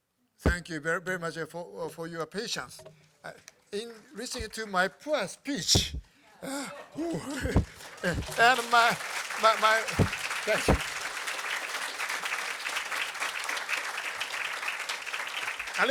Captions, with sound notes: Thank you very, very much for your patience in listening to my poor speech [LAUGHTER] And my-- [APPLAUSE] Thank you. [APPLAUSE]